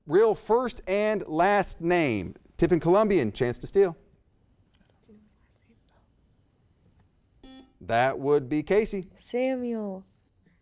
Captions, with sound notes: Real first and last name. Tiffin Columbian, chance to steal. (students whisper) (buzzer beeps) That would be Casey. - Samuel.